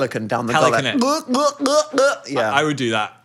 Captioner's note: imitates pelican squawking